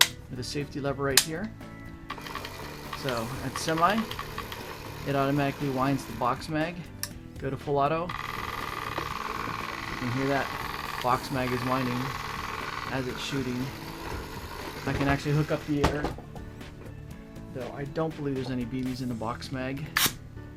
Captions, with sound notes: with a safety lever right here. (mechanical whirring) So that's semi, it automatically winds the box mag. (faster whirring) Go to full auto, you can hear that. The box mag is winding as it's shooting. I can actually hook up the air, though I don't believe there's any BBs in the box mag,